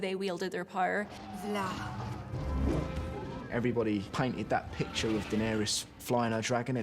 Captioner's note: speaks own language